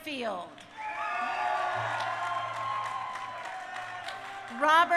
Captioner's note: crowd cheering